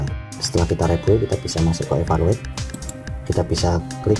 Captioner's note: click